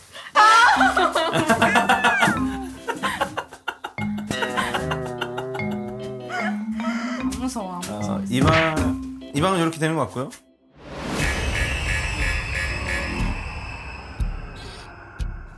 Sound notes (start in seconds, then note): 4.2 laughing the most in the back